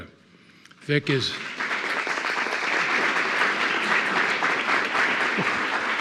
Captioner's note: attendees applauding